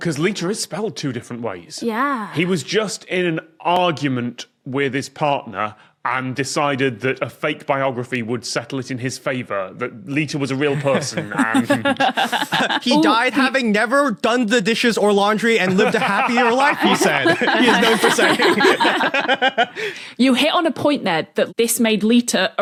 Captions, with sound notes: 'Cause litre is spelled two different ways. Yeah. He was just in an argument with his partner and decided that a fake biography would settle it in his favour that Litre was a real person and... (guffaws) He died having never done the dishes or laundry and lived a happier life, he said. He's known for saying. (group laughing) You hit on a point there that this made Litre